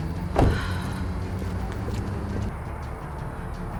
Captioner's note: car door thumps